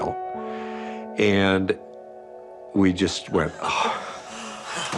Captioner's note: sighs; pilots sighing, breathe heavily